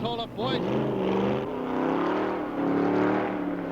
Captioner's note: engine revving